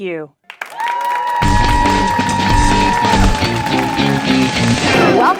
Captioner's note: clapping and cheering; upbeat rock music